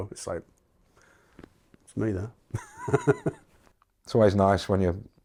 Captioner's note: chuckles